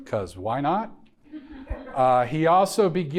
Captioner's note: audience members laughing